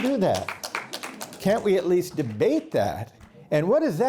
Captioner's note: applause